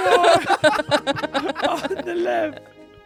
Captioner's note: everyone laughs